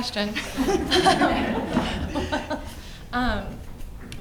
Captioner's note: all laughs